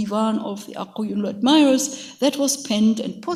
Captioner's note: speaks in a foreign language